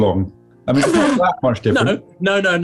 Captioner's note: splutters